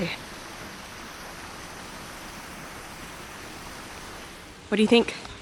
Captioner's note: running fountain water